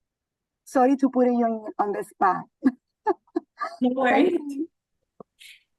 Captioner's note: chuckles